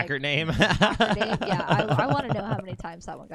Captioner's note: laughing